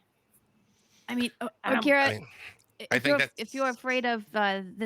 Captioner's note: murmurs